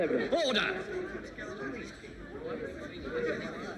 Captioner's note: people chattering